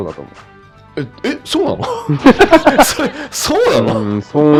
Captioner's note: laughs